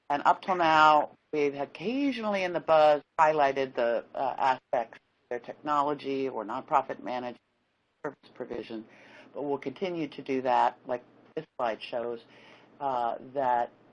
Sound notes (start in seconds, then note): 7.4 audio cuts off